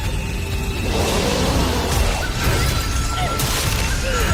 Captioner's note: roaring